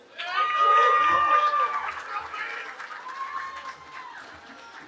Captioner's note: cheering